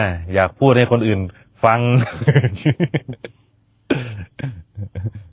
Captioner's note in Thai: เสียงหัวเราะ